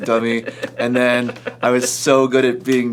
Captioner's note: laughs